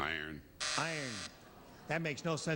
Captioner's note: buzzer